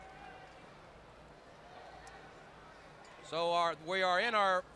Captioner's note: crowd chatter